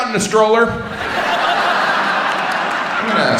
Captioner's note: audience laughs